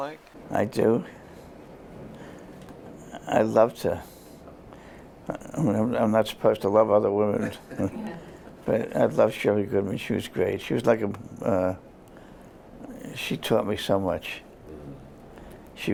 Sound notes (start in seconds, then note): 7.4 laughter